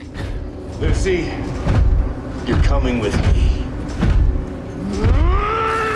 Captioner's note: chuckles; footsteps thudding; Maximus yelling